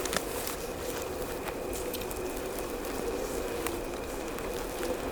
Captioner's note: sound of Footsteps and Cold Wind